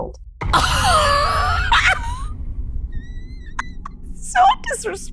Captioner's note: laughs